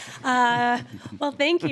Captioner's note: panel laughs